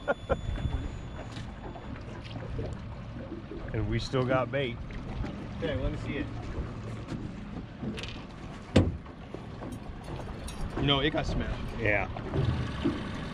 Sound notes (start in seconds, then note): 0.0 laughing; 8.7 thunk; 11.3 clanking